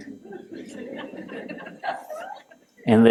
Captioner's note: laughter